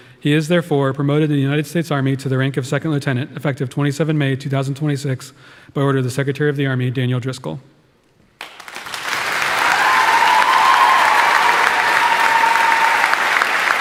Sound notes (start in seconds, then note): 8.4 audience applauding; 8.6 audience cheering